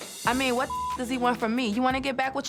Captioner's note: beep